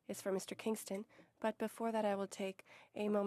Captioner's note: speaking French